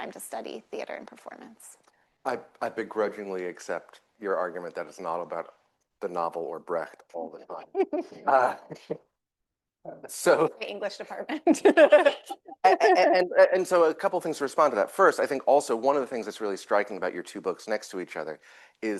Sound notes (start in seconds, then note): 7.6 laughter; 11.4 laughs